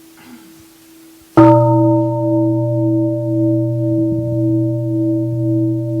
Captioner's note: gong